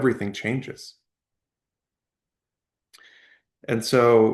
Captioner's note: pause